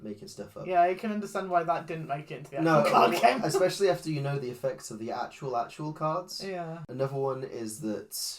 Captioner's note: laughs